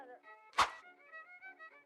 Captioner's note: swoosh!